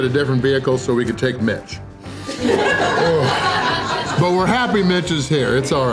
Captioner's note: laugher